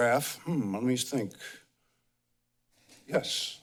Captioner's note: pause